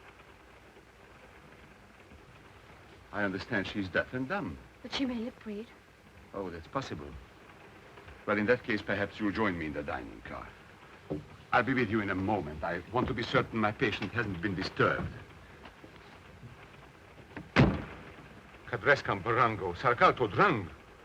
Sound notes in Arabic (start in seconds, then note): 17.3 يغلق الباب; 18.7 هارتز يتحدث لغة أجنبية